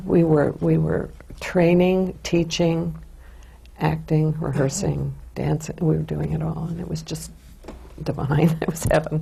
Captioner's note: laughs